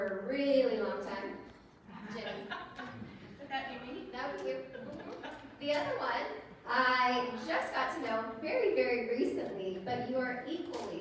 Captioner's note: laughter